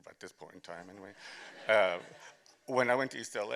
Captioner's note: laughter